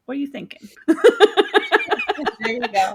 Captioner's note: laughing